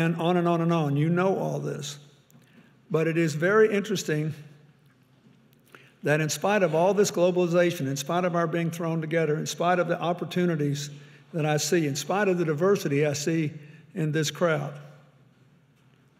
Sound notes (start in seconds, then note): none